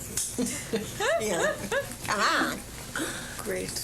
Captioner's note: laughter